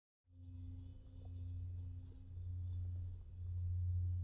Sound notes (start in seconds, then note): 0.3 droning sound